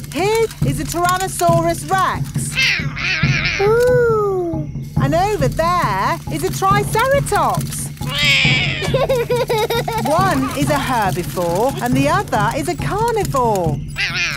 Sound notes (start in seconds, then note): 2.9 roaring; 8.0 roars; 8.0 laughs